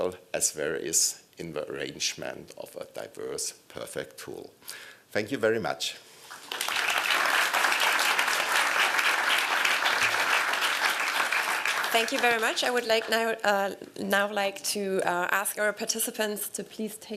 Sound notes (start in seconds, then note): 6.2 applause